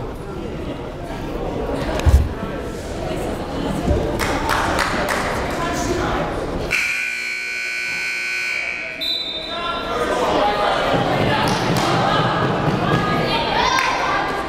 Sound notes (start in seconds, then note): 6.7 timer buzzing